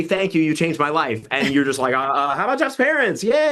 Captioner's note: host laughs